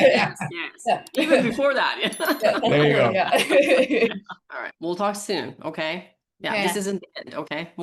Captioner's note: laughing